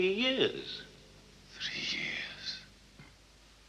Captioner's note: whispering